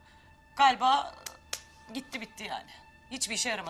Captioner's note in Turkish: El çırpma sesi